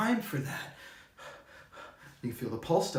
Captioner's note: panting